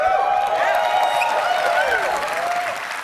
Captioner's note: cheering